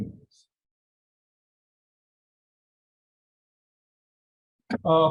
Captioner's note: pause